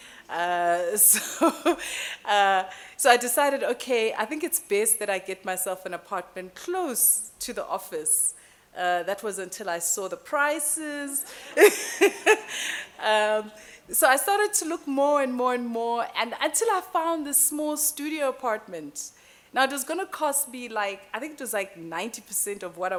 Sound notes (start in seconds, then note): 11.5 laughing